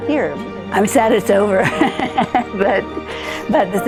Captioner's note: laughs